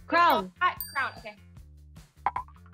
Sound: bell dings

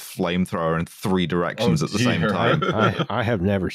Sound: chuckles

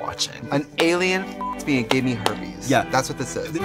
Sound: beep

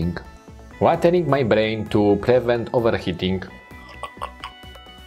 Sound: slurps

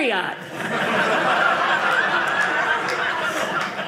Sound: audience laughing

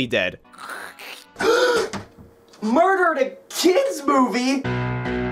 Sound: gasp

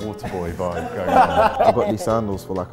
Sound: laughing

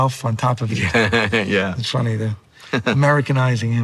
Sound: laughs

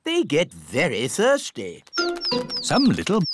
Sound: tweeting

